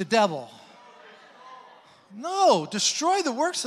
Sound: congregants disagreeing

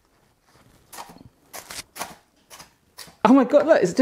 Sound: loud crunching

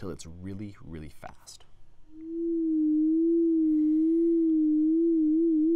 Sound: sine wave quivering

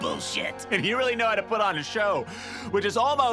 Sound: gasp

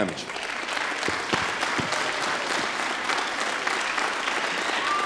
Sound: applause

